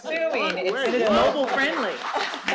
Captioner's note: applause